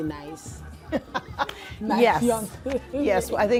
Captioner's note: laughing